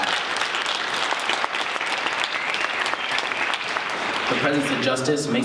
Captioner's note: applause